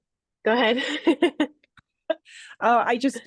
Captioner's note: laughs